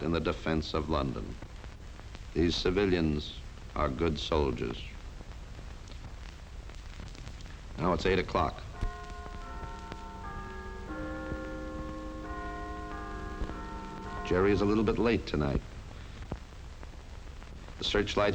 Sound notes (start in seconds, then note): 8.7 clock chiming